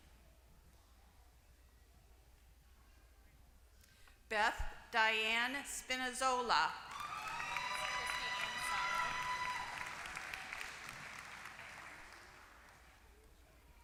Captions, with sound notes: >> Beth Diane Spinazzola. >> [APPLAUSE]